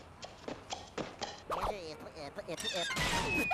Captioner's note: stuttering